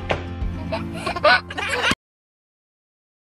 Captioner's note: laughs